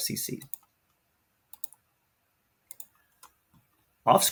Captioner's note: mouse clicks